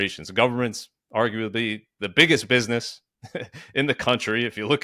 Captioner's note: chuckles